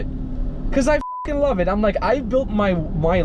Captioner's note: beep